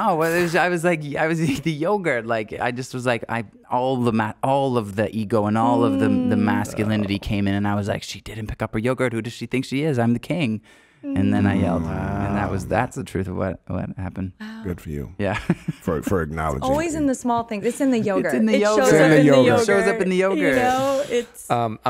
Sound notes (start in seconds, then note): 15.3 laughing